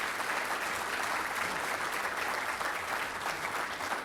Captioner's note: applause